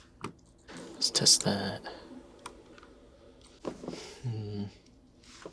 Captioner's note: mouse clicking